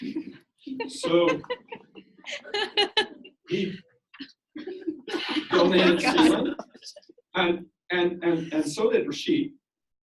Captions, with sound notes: (audience laughs) So, he donates his sperm, and so did Rashid.